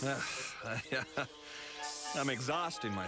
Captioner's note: laughs